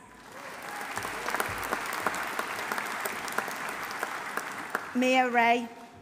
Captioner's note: audience applauding; audience cheering